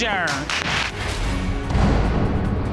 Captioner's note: audience applauding